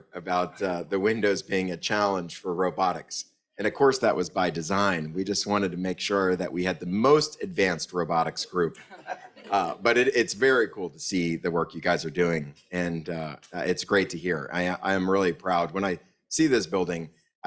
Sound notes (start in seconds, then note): 8.8 audience laughs